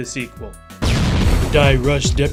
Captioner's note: explosion